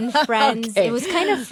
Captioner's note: laughs